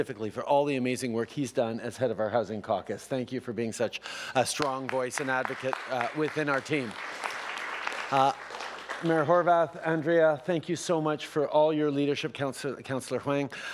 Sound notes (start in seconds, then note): 6.9 applause